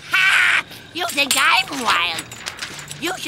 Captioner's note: laughing